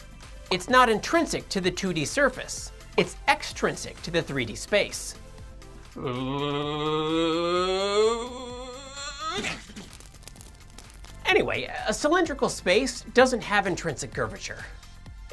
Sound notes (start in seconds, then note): 5.9 humming Noises; 9.3 explosion Sound